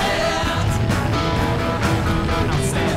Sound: flames

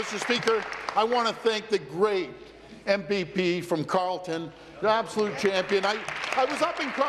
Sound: applause

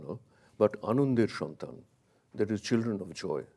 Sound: speaks in a foreign language

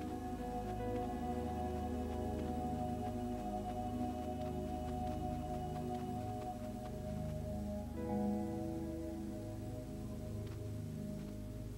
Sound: ambience, Running

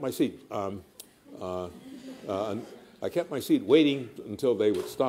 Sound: laughter

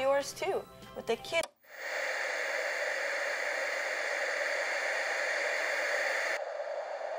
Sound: TV cuts to static

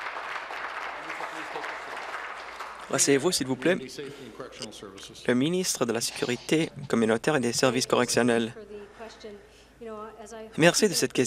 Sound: some Applause

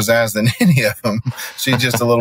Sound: chuckling

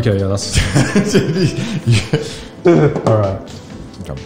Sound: laughs

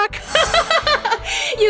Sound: laughs

